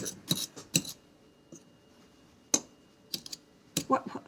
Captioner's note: fork clattering